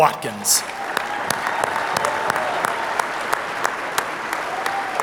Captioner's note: audience applauding